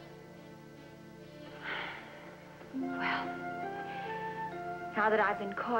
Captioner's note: sighs